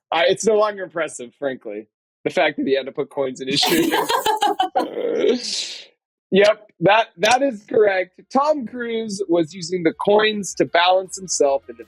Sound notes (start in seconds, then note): 3.5 laugh